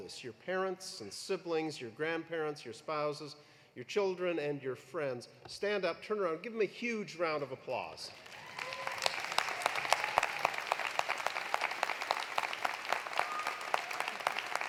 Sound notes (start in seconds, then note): 8.1 audience applauding; 8.2 audience cheering